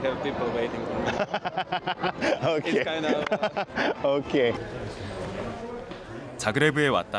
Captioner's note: laughter